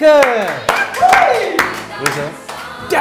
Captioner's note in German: Jubelruf